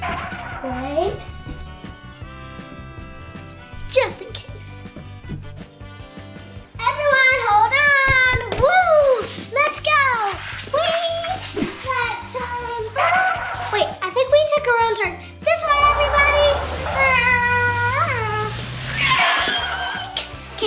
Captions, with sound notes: (tires screech) Wait. Just in case. Everyone, hold on! Woo, let's go! Wee! Let's turn around. Wait, I think we took a wrong turn. This way everybody! (hums) (screeches)